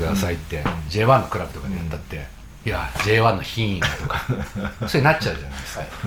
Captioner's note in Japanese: 笑い